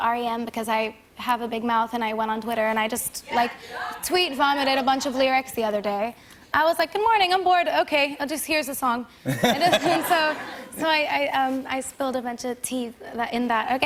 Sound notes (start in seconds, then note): 9.2 laughter